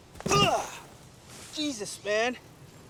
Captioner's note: groans